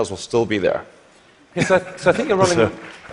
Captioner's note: applause